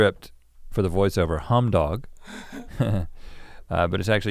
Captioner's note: chuckles